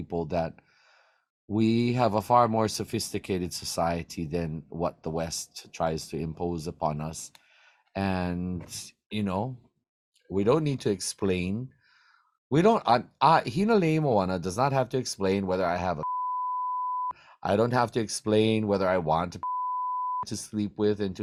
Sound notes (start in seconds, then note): 16.0 beeps; 19.8 beeps